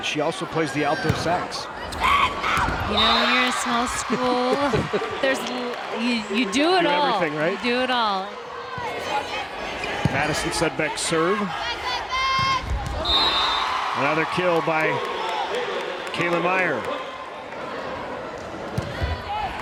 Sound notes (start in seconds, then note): 12.4 crowd and players cheering; 12.9 players yelling